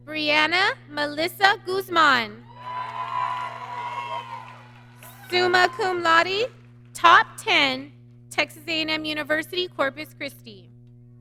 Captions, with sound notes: Brianna Melissa Guzman, (applause) Summa Cum Laude, top 10, Texas A&M University, Corpus Christi.